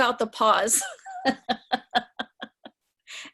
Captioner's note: laughter